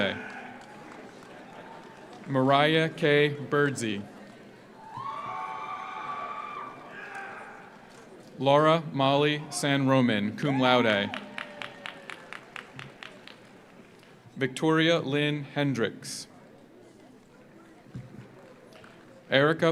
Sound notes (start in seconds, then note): 0.0 audience applauds; 0.0 audience cheers; 4.7 audience applauds; 4.8 audience cheers; 10.4 audience cheers; 10.6 audience applauds; 16.6 audience applauds